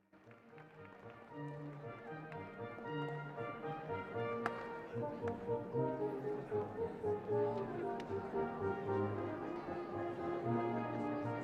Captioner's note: applause